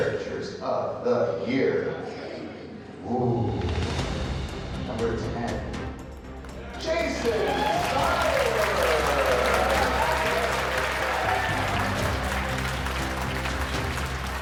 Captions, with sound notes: Top 10 caricaturists of the year. Number 10. Jason Seiler. (applause)